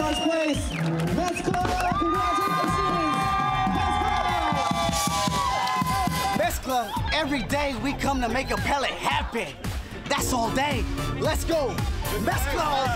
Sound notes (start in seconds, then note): 2.4 cheering and applause